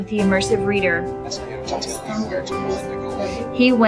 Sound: computer reading along to text

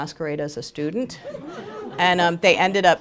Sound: laughter

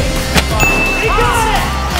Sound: chime

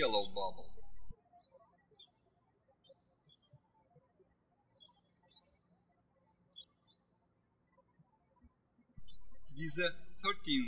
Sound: birds chirping

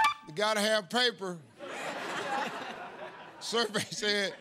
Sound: laughter

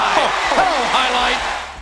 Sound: crowd cheering

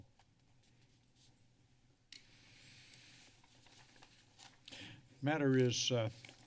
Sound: silence

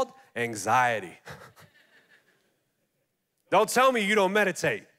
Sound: laughing

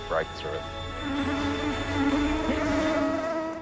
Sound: swarm of mosquitos buzzing

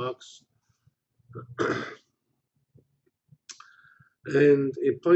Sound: pause

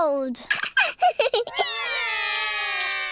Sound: laughs; all cry

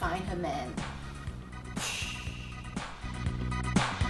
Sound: boosh

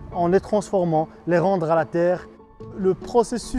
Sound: speaking french

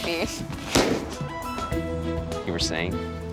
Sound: balloon pops

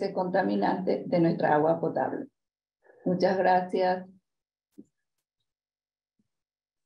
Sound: continues speaking in Spanish

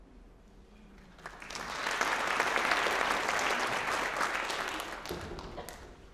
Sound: applause

